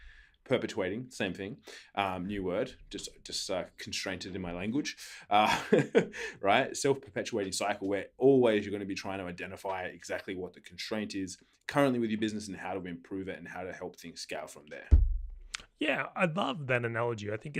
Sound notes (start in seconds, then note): 5.5 laughing